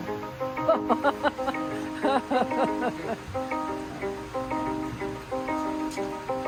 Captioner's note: soft music; laughs